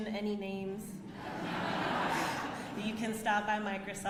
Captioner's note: audience laughs